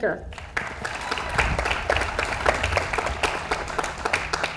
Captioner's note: audience applauds